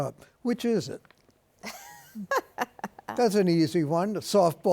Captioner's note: laughing